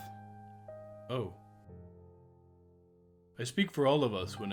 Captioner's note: silence as the guard takes all the information into his mind